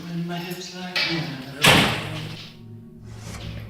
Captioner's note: kitchen door slams